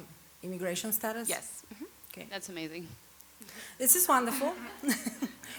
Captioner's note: laughs